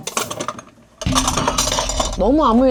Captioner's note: crash, bang, shatter!; clatter